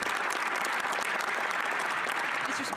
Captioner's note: speaking French